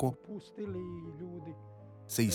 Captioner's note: Hablando idioma extranjero